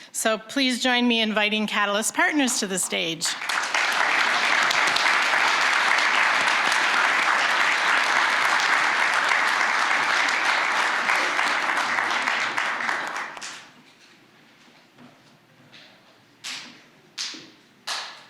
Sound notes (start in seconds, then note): 3.2 applause